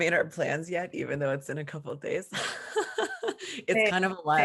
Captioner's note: laughs